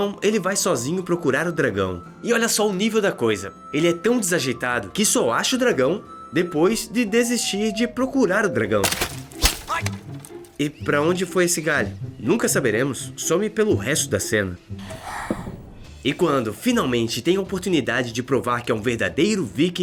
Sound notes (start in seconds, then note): 8.8 Twig hits Hiccup in the face